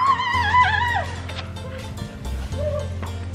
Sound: screaming

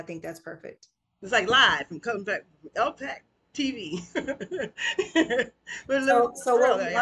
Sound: laughs

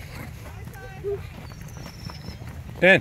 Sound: birds Singing

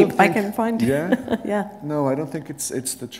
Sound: laughter

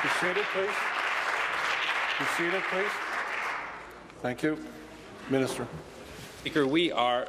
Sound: applause

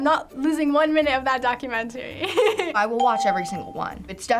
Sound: chuckles

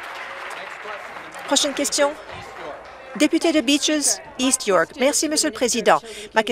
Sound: applause

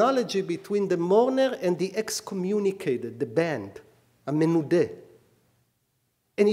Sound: speaking hebrew

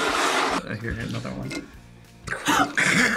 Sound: gasps; laughs

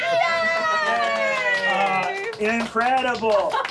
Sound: baby talk; clapping

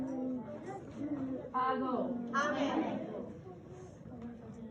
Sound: students chatting

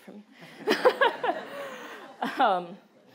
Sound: laughter

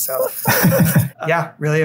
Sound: laughter

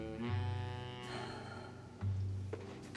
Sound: sighs

